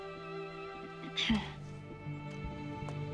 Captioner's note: clears throat softly